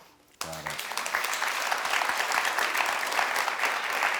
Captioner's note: audience applauds